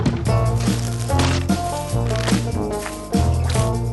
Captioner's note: plants snapping